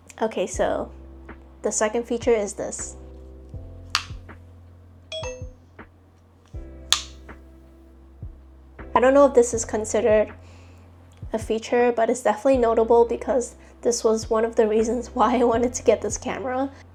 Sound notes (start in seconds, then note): 3.9 click; 6.9 click